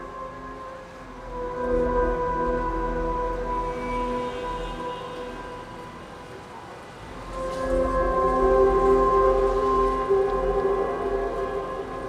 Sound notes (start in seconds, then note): 4.2 traffic moving and horns honking; 8.6 soft dramatic music